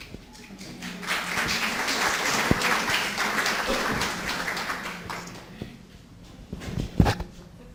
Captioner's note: audience Claps